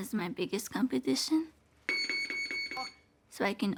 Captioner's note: electric signal beeps